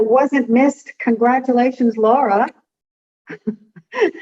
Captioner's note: laughs